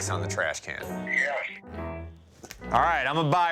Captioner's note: on phone